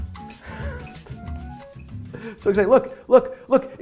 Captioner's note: laughing